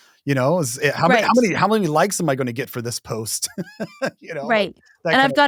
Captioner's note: chuckles